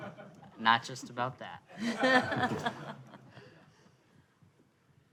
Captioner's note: audience laughing; audience laughing